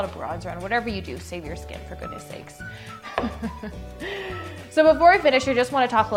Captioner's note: laugh